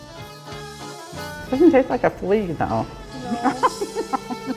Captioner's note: laughter